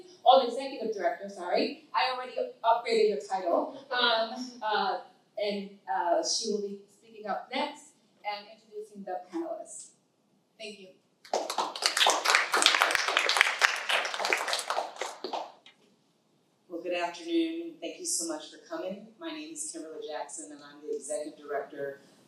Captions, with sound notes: or the executive director, sorry, I already upgraded your title, and she will be speaking up next and introducing the panelists. Thank you. (audience applauding) Well, good afternoon. Thank you so much for coming. My name is Kimberly Jackson and I'm the executive director